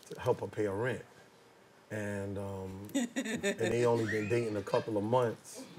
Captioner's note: chuckles